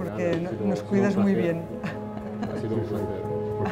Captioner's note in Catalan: Risas